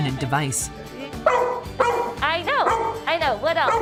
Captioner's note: dog barking